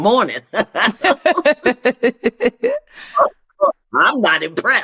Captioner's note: laughter